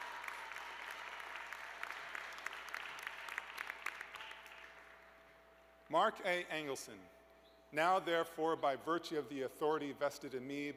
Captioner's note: cheers and applause